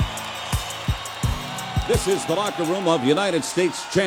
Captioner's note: crowd cheering